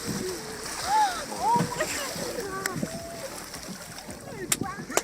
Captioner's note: water splashing; gasps